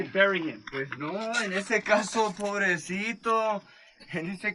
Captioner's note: foreign language